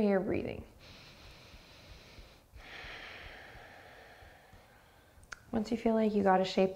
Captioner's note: deep breathing